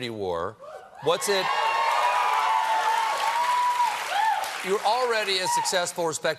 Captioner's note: cheers and applause